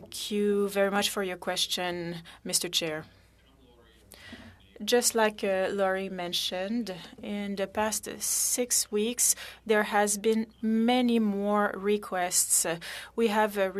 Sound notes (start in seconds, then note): 4.1 speaking french